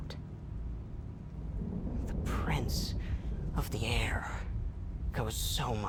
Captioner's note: thunder rumbling